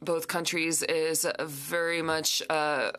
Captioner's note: speaking French